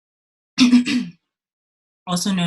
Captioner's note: coughs